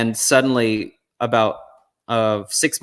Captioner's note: none